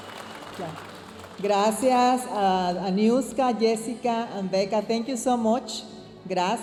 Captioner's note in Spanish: hablando en inglés